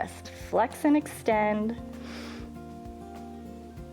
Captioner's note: inhales